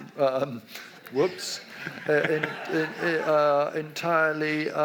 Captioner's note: audience laughs